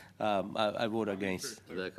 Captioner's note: conversation din